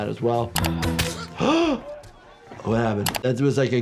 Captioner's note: gasps; Thanos grunts